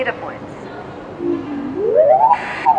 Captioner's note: rising tone; static